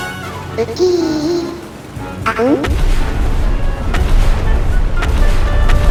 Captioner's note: groan